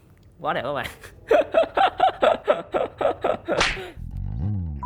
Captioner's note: laugh